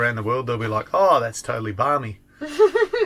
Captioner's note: laughing